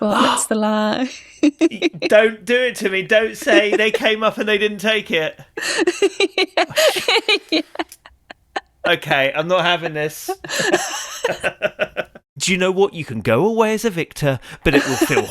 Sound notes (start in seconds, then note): 2.1 laughs; 5.9 laughs; 11.0 laughs